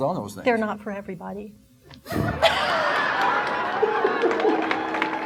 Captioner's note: audience laughing